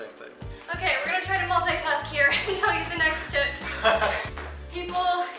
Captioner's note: laughter